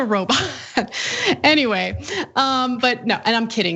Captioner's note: laugh